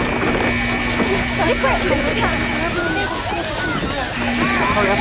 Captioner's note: people talking